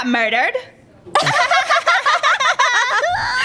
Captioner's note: laugh